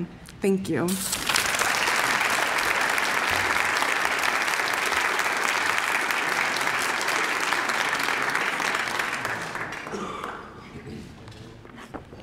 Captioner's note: applause